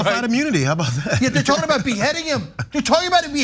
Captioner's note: laugh